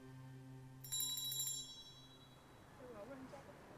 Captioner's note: bell ringing; crowd chattering